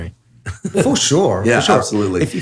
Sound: Andrew chuckles

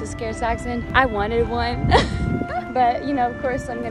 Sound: laughs

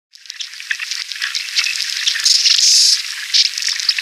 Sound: insects chirping

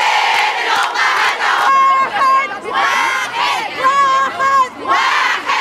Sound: chants; chants

